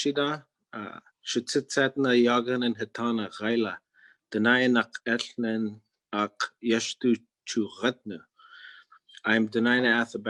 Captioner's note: speaking in Native Language